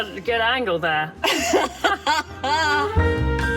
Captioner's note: both laugh; relaxing Jazz music